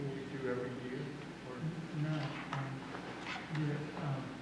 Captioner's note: murmuring